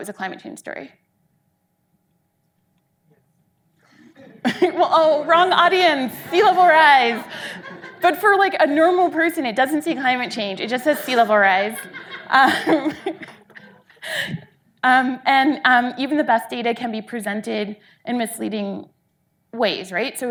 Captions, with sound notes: it was a climate change story? (audience laughing) Well oh wrong audience, sea level rise, but for like a normal person it doesn't say climate change, it just says sea level rise. And even the best data can be presented in misleading ways, right,